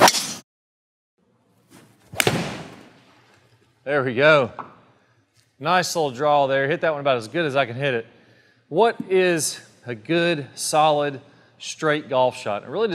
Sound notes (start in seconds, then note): 0.1 ball swooshes; 2.0 club smacks